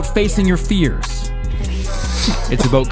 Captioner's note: snorting